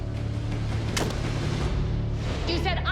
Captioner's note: crunch